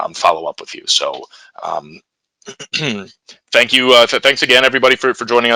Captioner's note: clears throat